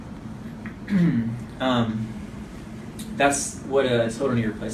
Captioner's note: clears throat